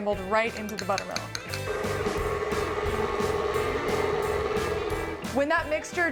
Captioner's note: sound of mixer